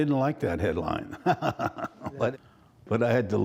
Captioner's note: laughter